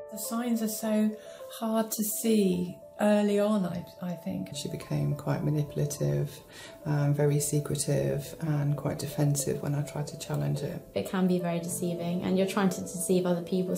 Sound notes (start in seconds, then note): 4.5 voiceover